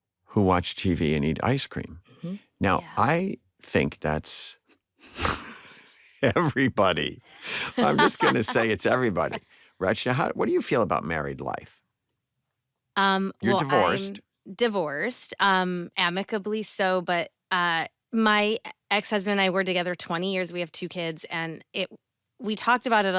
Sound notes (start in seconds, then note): 5.2 chuckles